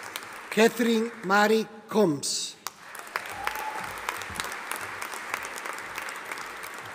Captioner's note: audience applauding